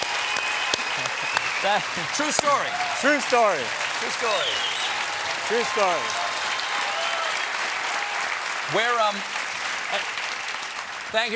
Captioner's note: cheers and applause